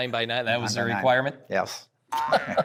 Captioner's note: laughing